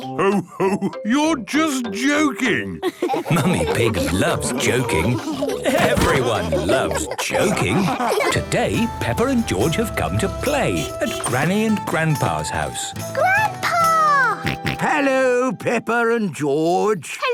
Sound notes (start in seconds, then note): 14.4 George snorts